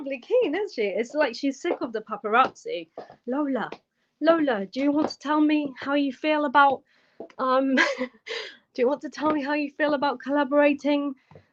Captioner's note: laughter